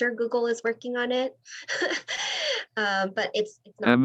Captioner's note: laughter